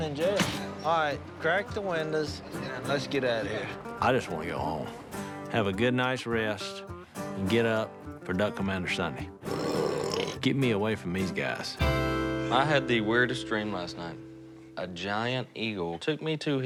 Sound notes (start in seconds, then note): 9.4 burp